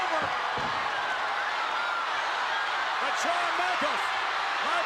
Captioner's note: crowd cheering